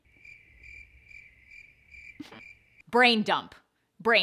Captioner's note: crickets chirping